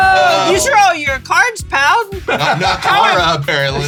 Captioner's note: laughs